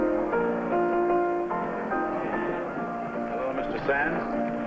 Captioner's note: light chatter in saloon